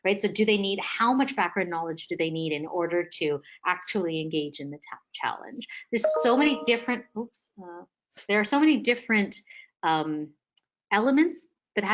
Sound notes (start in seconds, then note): 6.0 notification tone chiming